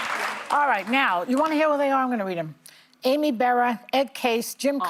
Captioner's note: applause